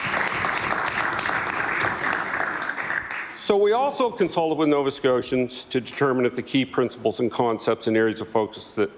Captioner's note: applause